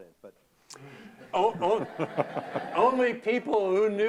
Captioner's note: laughter